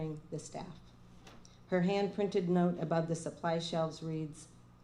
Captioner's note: none